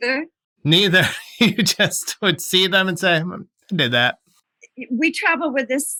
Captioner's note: laughter